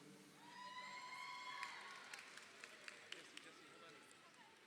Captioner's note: crowd cheering